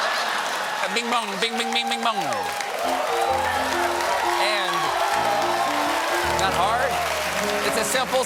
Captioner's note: laughter